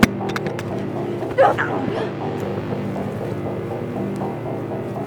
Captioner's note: both groan; suspenseful music continues